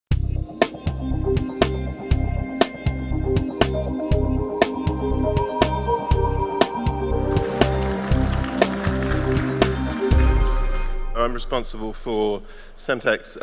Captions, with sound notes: (cool tech music) (audience clapping) - I'm responsible for Semtech's